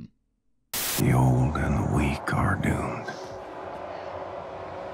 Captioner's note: white noise